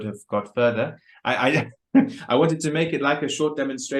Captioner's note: laughs